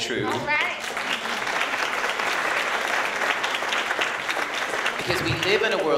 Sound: applause

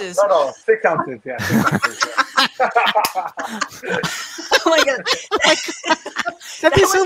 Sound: everyone laughing

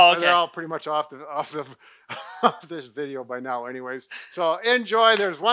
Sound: laughs

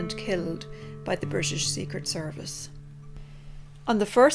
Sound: none

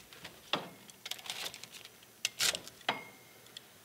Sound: metal rattling

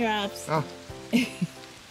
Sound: chuckles

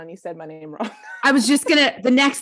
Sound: laughing

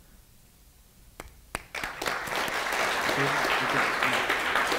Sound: audience applauding

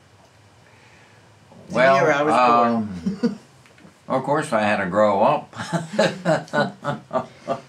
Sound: laughs

